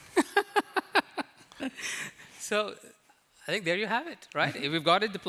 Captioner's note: laughs